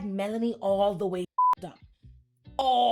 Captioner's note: beep